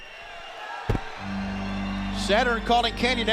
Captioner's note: crowd cheering